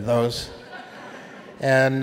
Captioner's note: audience laughing